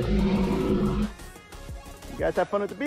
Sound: dinosaur roars

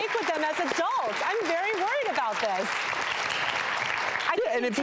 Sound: audience clapping

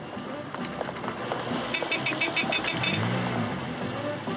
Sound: horn Honking

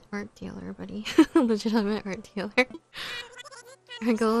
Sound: laughs

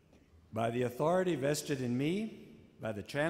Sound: voiceover

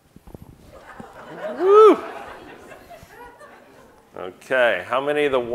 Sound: audience laughing

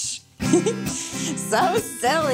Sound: chuckles

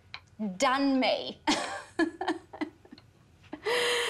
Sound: laughing

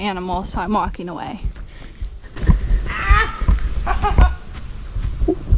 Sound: yelling

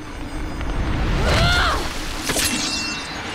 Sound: screams

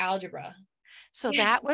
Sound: chuckles

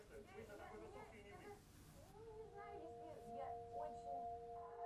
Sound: speaking in a foreign language; gentle electronic music

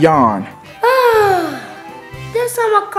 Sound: Orange sighs

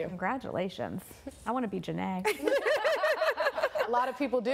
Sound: laughing

